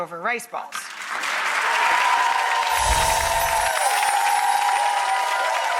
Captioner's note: audience applauding